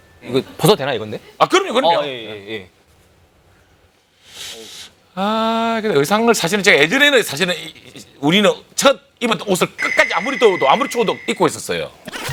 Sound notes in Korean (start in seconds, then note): 4.2 쓰읍